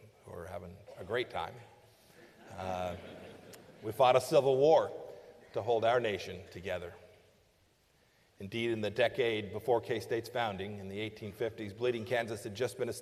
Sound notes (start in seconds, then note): 2.2 laughter